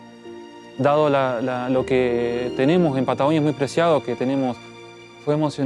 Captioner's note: in Spanish